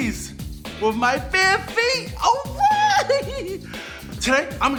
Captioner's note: giggles excitedly